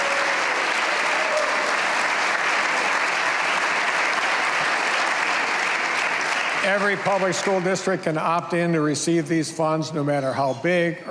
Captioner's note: cheers and applause